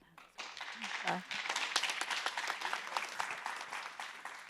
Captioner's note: audience clapping